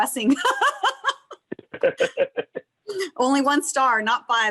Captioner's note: laughter